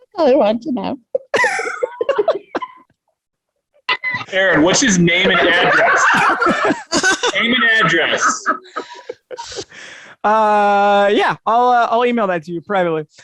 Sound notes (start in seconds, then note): 1.2 both chuckling; 5.1 all chuckling